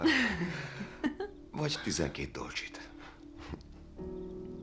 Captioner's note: chuckling